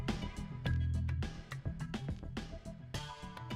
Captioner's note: none